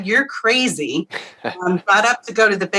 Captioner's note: laughs